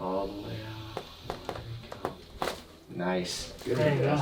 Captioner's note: joint cracks